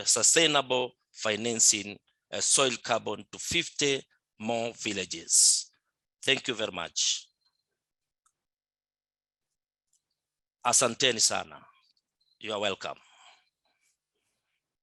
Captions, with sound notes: sustainable financing soil carbon to 50 more villages. Thank you very much. (speaking in Swahili), you're welcome.